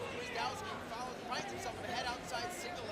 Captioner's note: crowd cheering